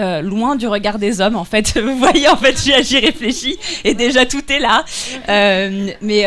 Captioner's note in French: rires